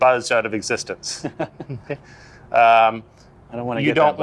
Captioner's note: laughs